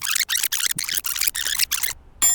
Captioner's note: bell dings